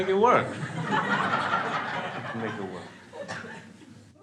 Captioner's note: crowd laughs